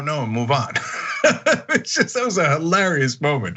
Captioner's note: laugh